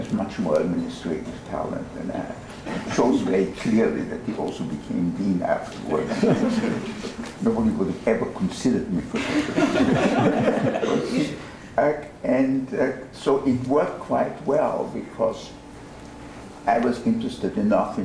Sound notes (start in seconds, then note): 9.1 laughter